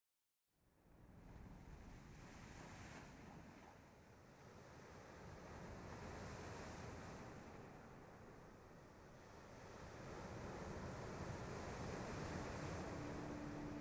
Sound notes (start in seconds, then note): 2.2 waves softly crashing; 12.1 serene music